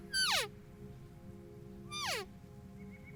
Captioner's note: elk call